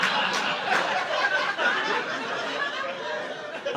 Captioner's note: audience laughing